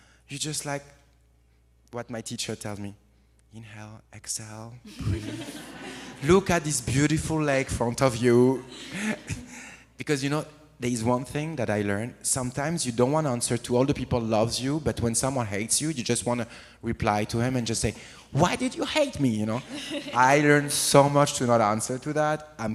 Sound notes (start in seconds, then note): 4.9 audience laughs; 19.5 audience laughs